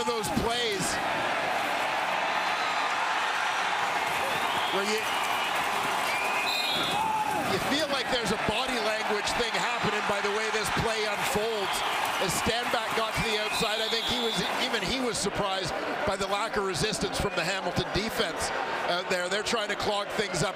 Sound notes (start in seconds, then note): 8.0 crowd Noise; 14.7 crowd Noise